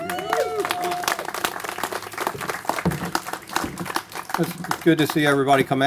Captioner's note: applause